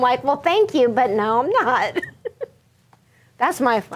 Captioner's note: laughing; chuckles